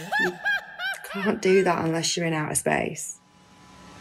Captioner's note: Risas